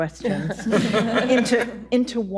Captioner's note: audience laughing